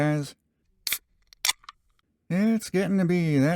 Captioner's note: beer opening sound'